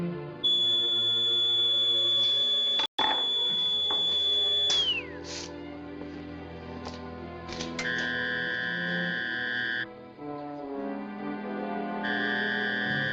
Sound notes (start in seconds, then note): 0.4 high-pitched beeping; 4.9 beeping stops; 8.1 machine whirring